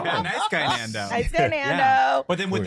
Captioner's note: laughter